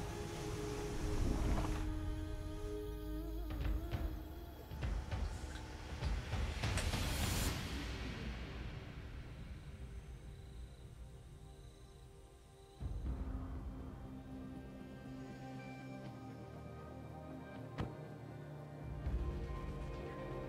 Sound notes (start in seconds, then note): 0.0 waves rushing; 3.5 rhythmic drumming; 9.9 insects chirping; 15.2 upbeat music